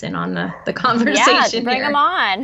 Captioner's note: laughs